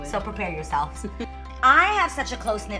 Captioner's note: laughs